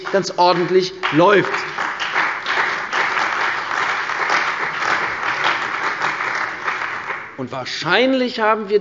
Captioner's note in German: Beifall bei der CDU und dem BÜNDNIS 90/DIE GRÜNEN